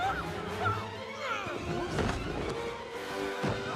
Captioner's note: yells; grunts